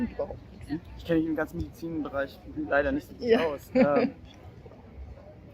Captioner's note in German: lacht